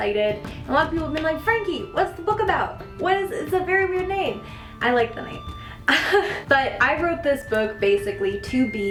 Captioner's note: chuckle